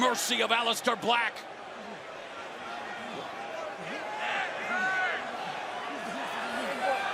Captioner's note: crowd chatter